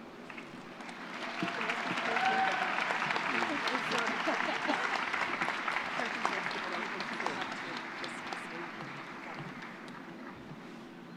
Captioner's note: applause